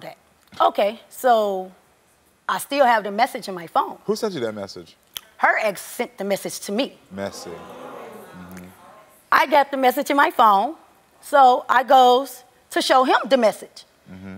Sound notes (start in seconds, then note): 7.2 audience oohing